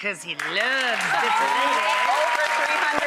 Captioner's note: audience applauding